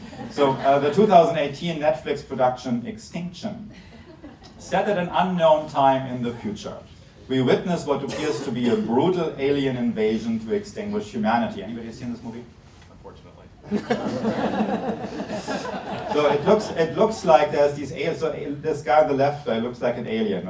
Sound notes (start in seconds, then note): 13.7 laughs